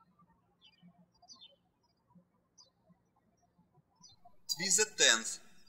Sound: birds chirping

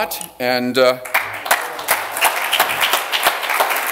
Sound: applause

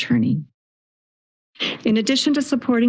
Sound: silence

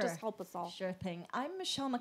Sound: voiceover

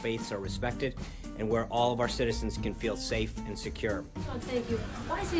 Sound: laugh track

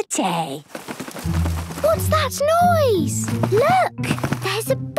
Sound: scuffling

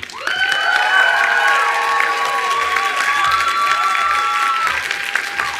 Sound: attendees applauding and cheering

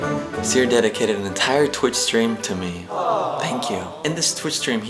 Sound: awww sound fx

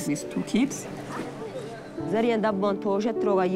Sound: speaking foreign language

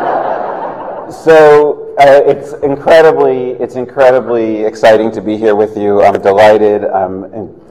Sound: laughter

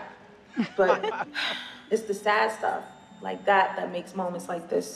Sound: laughter

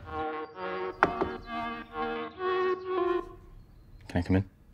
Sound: door knocking

